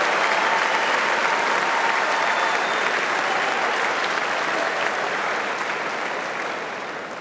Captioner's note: audience applauding